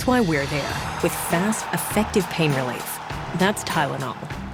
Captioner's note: cheering